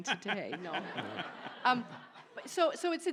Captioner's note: audience laughs